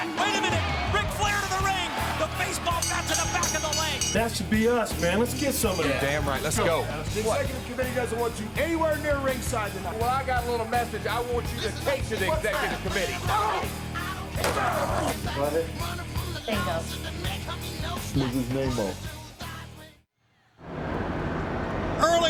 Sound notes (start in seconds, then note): 13.7 grunting; 14.4 guitar shattering; 15.4 assistant faintly speaking; 20.7 wind whooshing